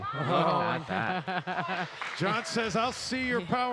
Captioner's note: laughing